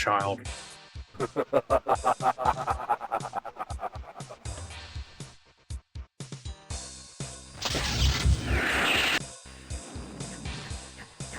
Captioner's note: evil laugh